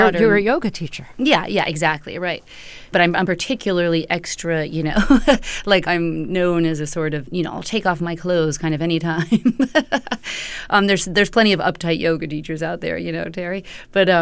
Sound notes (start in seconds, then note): 5.0 laughter; 9.2 laughter